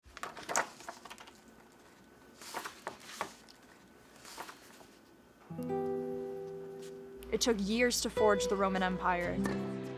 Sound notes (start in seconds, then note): 0.0 pages turning; 5.4 slow music